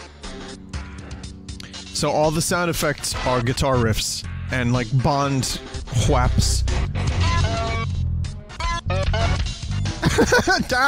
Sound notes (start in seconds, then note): 8.5 beeping noises instead of gunshots; 10.0 laughs